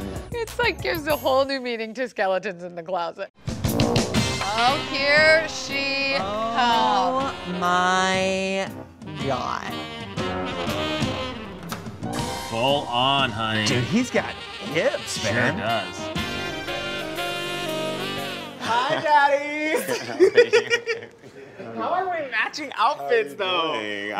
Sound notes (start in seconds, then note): 18.6 laughs